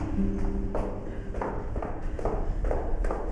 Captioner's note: footsteps